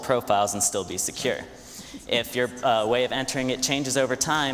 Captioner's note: none